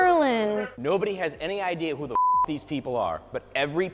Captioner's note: beep